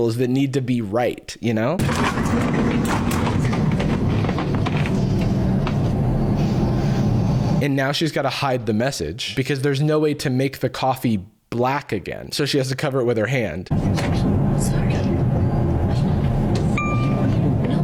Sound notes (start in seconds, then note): 7.6 white noise